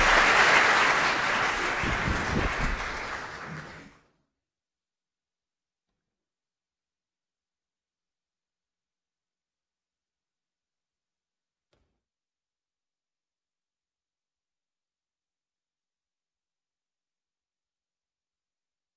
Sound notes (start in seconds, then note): 2.3 applause